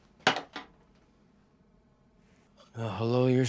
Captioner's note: clanking sound